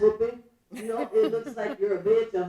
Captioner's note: laughing